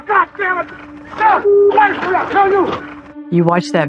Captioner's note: indistinct shouting